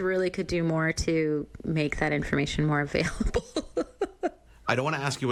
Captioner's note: chuckles